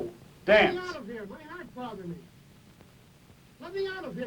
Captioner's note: voiceover